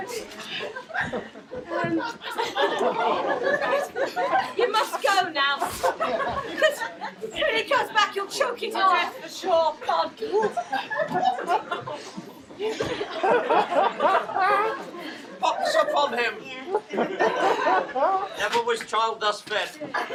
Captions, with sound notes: - Oh dear. You must go now. When he comes back he'll choke you to death for sure. (laughing) - A pox upon him. Have always child thus fed?